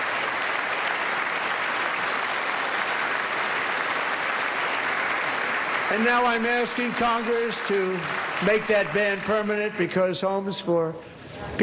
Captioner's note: applause